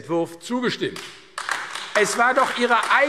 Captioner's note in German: Beifall AfD